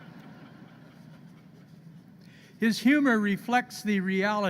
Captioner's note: laughter